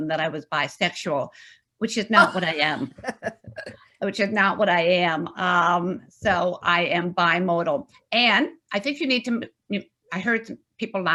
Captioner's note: laughs